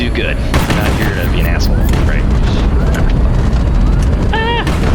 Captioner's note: laughs